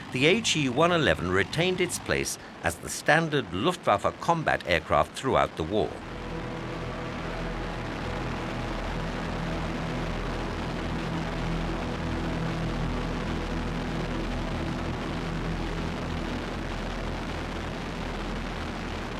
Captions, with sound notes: the He 111 retained its place as the standard Luftwaffe combat aircraft throughout the war. (dramatic music) (plane roaring)